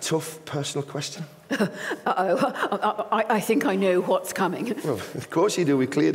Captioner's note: laughing nervously